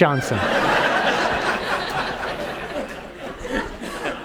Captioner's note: audience laughs